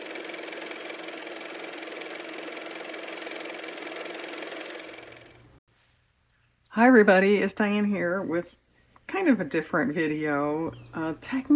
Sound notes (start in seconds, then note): 5.4 car motor